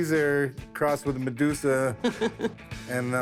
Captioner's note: laughs